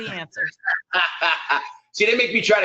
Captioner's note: laughs